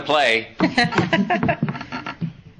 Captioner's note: laughs